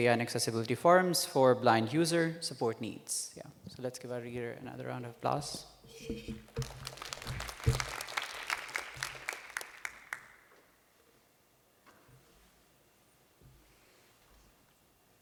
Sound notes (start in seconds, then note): 6.5 applause